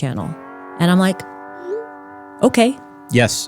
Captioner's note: text message whooshing